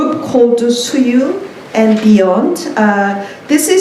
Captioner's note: korean